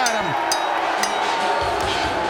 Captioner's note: bell ringing